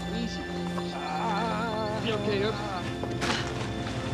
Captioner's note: moans